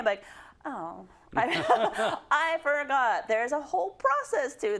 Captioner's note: laugh